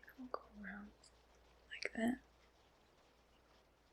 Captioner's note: whispers